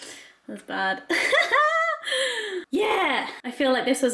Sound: laughing

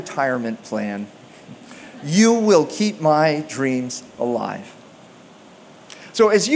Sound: chuckles

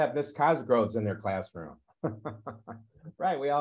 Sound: laughs

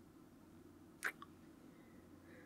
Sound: kiss

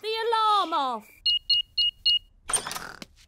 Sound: beeping

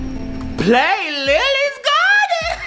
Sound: laughs

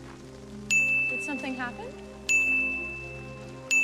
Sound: dinging

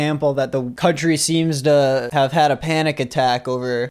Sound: none

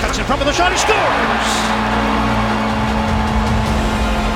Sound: crowd cheering

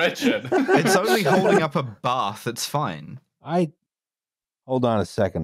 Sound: laughter

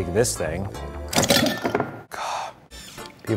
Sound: clattering

